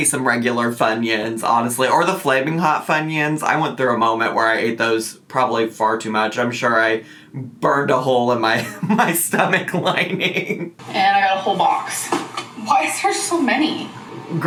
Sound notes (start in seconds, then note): 8.6 laughing